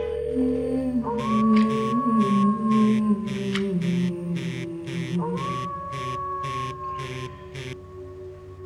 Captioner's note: phone Rings; phone Rings - Wolf Howl